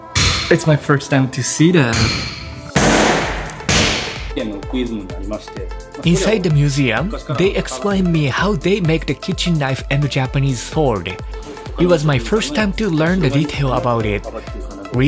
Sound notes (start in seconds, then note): 4.5 staff speaks in japanese